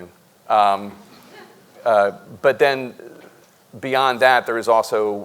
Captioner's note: audience member chuckles